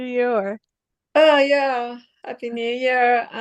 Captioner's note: she speaks in Persian